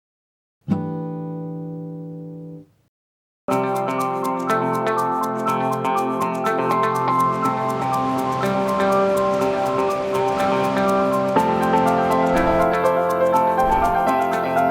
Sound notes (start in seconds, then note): 1.0 guitar strums; 3.6 vibrant music; 9.0 water rushes